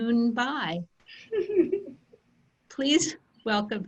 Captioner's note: laughter